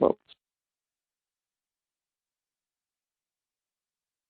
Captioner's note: silence